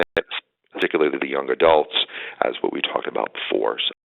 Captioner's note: audio dropping